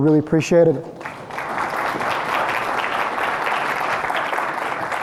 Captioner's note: crowd clapping